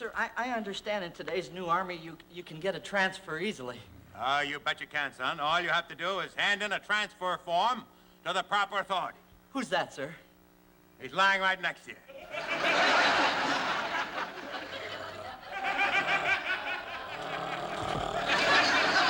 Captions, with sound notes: I understand in today's new army you can get a transfer easily. Oh, you bet you can, son. All you have to do is hand in a transfer form to the proper authority. Who's that, sir? He's lying right next to you. [ Laughter ] [ Growling ]